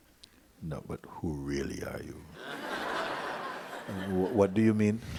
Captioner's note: laughter